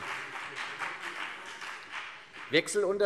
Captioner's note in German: Beifall CDU